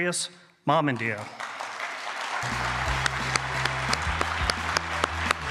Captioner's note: applause,music playing